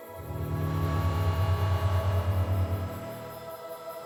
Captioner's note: buzzing